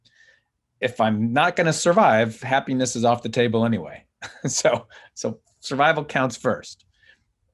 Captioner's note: chuckles